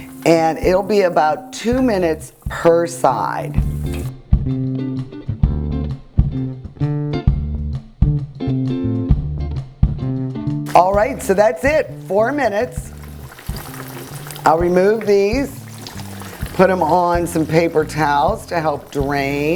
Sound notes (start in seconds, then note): 4.2 jazz music; 13.4 oil sizzling